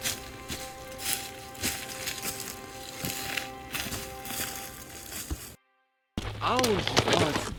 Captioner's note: footsteps crunching on leaves